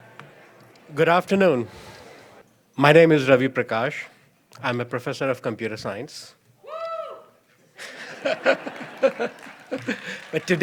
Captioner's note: crowd member cheers, laughter